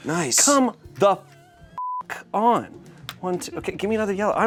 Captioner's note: beep